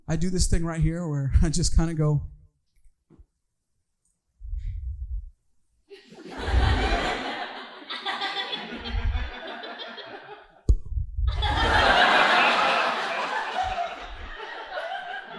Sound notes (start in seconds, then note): 5.9 audience laughing